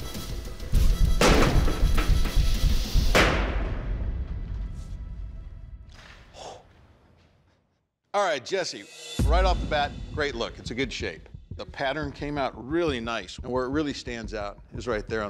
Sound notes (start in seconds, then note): 6.2 forceful exhale